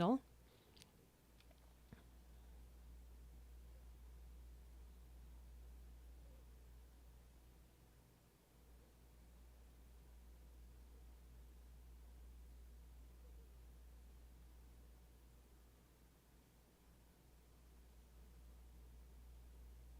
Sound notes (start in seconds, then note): 6.7 silence